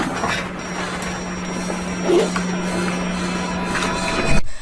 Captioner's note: low oxygen warning alarm